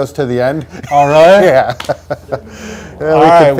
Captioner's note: laughs